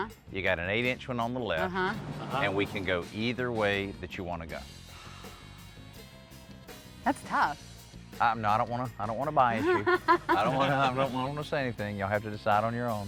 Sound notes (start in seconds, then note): 9.6 laughing